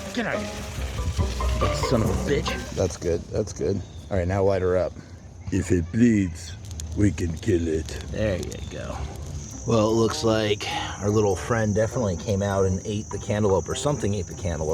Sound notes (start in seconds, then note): 0.0 water hose spritzing; 8.7 fire crackling